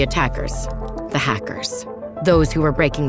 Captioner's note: keys typing